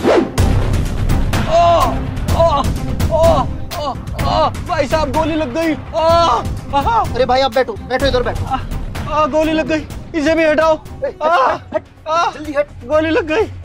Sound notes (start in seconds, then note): 5.8 shouting; 10.9 shouting